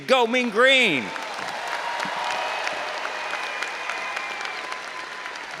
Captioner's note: all applauding and cheering